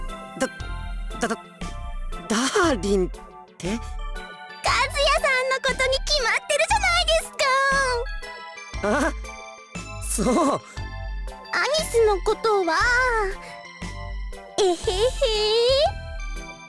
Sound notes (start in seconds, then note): 14.6 chuckle